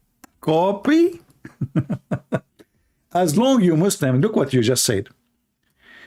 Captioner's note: Ketawa